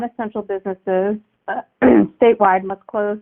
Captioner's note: clears throat